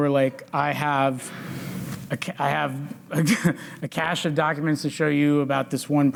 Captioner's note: chuckles